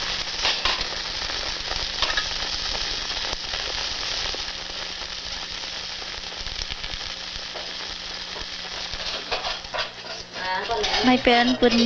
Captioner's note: food sizzling